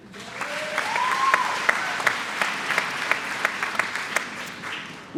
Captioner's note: applause